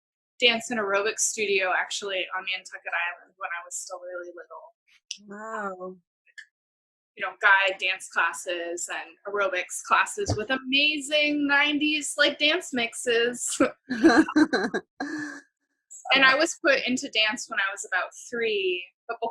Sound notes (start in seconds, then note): 13.9 laughter